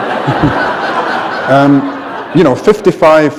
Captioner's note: laughter